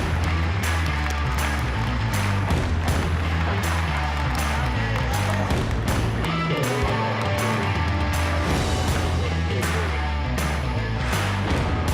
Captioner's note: applause